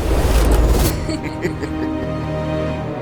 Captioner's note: giggles